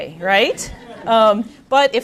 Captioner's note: audience laughing